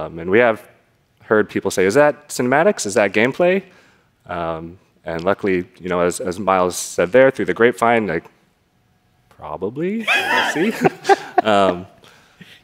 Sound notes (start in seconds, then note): 10.0 laughs